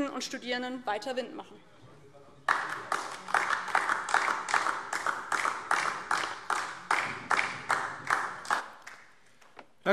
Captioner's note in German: Beifall DIE LINKE und vereinzelt SPD